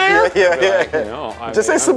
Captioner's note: laughing